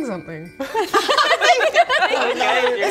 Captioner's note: mixed enthusiasm laughter